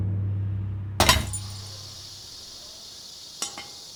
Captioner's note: hissing